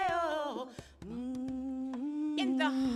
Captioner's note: humming